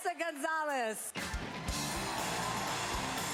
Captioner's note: cheering